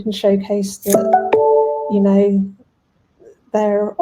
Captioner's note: message notification tone